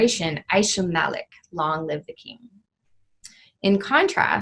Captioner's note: speaking in foreign language